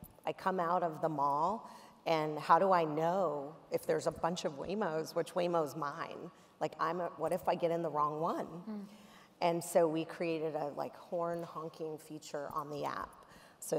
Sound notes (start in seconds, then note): none